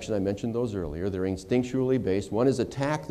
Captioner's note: none